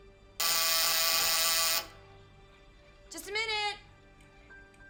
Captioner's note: doorbell buzzes